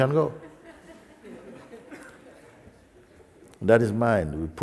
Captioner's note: laughter